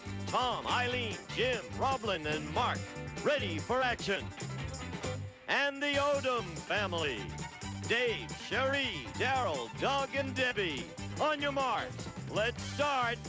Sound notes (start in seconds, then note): none